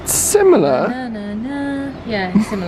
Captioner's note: hums